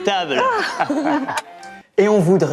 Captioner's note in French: rires